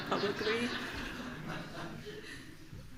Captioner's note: laughter